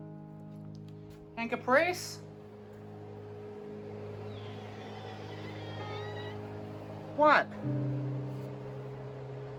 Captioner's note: Caprice meows in fear and emotional pain